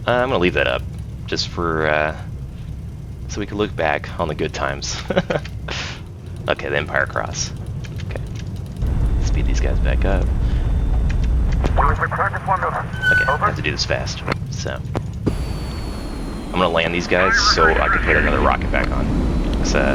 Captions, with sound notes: I'm gonna leave that up just for, so we can look back on the good times. [laughs] Okay, the "Empire Cross". Okay, let's meet these guys back. [Crew chatter] Okay, have to do this fast. So I'm gonna land these guys so I can put another rocket back on.